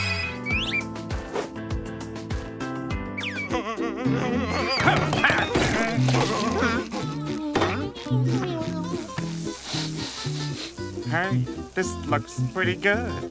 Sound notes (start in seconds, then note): 3.5 giggling; 9.1 sniffing